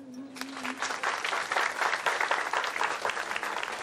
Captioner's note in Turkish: Alkış